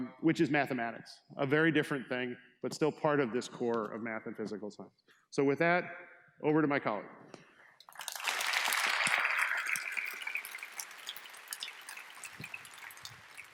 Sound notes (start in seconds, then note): 7.8 students applaud